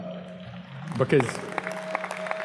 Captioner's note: audience claps